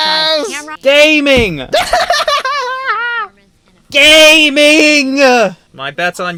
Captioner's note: laughs